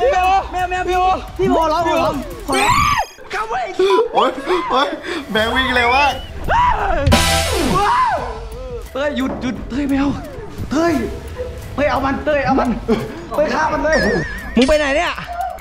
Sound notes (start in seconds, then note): 0.1 pat; 2.2 chuckles; 2.5 screams; 7.6 screams